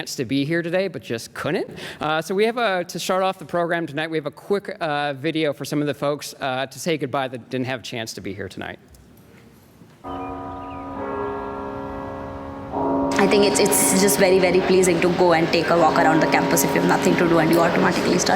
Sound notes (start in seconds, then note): 10.0 bell tolling